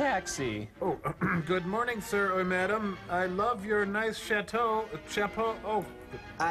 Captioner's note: clears throat